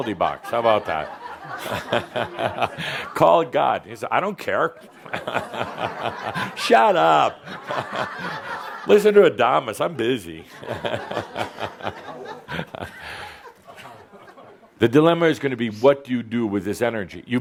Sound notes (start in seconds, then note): 3.3 laughter; 13.0 more laughter